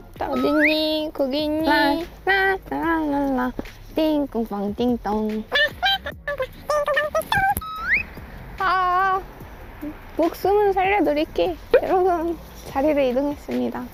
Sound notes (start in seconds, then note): 1.9 humming